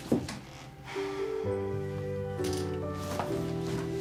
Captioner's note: sighs